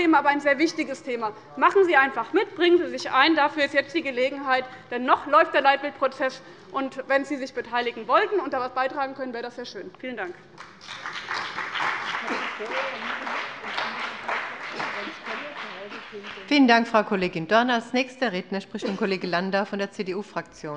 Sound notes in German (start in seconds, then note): 10.5 Beifall bei dem BÜNDNIS 90/DIE GRÜNEN und der CDU